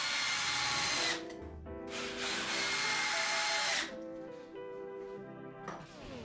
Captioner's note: drill whirring